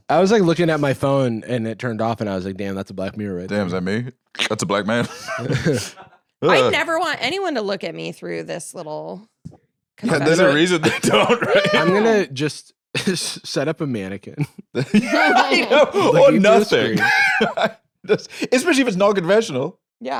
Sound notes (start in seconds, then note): 14.3 laughs